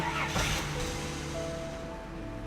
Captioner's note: gentle piano music plays; car engine starts